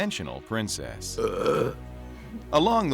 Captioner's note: burp